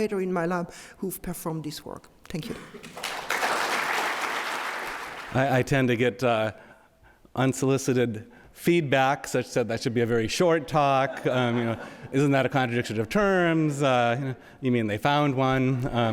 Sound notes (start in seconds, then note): 2.5 audience applauds; 11.0 audience laughs